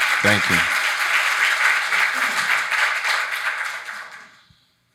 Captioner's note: audience applauding